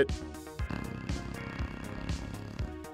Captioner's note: snoring